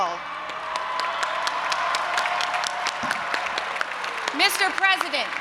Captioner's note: audience applauding and cheering